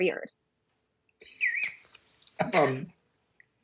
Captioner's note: laughs